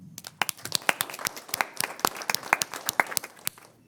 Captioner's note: crowd applauding